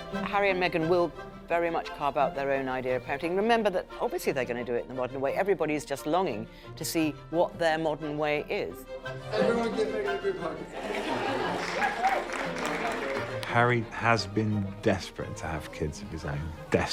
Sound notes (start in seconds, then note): 10.7 people applauding; 10.8 kids laugh